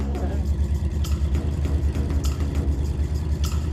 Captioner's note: engine humming